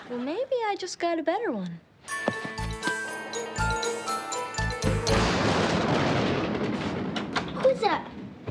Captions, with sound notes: - Well, maybe I just got a better one. (Christmas music) (thunder booming) - Who's that?